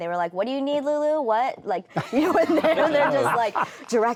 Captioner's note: laughing